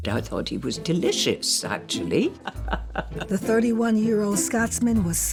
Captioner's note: chuckles